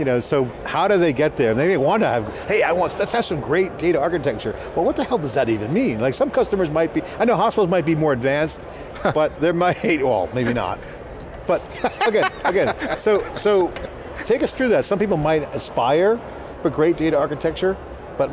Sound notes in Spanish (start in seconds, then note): 11.6 riéndose